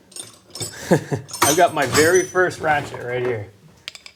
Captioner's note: chuckling